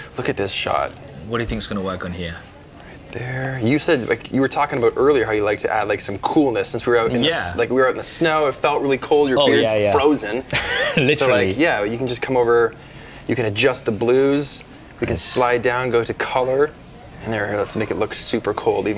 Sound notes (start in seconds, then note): 10.5 laughs